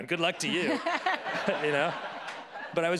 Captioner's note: laughing